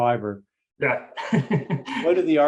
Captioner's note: laughter